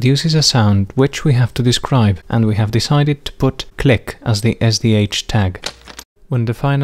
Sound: click

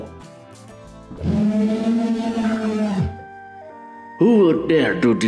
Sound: howl

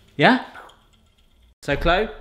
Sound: mimics explosion

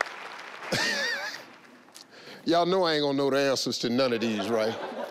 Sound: laughs

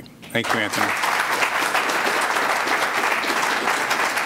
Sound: applause

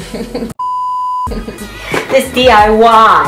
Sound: both laughing; beeps

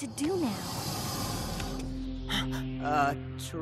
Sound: growling

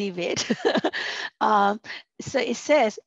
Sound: chuckling

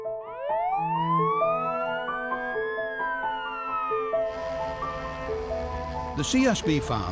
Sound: sound of sirens and helicopter rotors

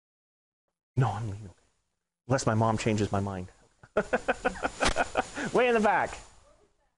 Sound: laughing

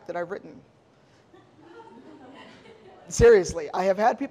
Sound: audience laughing

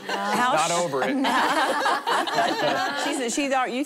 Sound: laughing

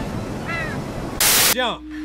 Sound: crows caw

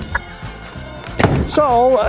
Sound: door slam #3

